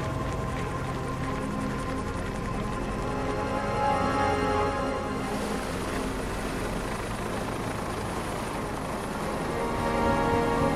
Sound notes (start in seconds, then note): 3.7 fire crackling